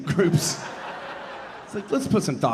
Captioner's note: audience laughing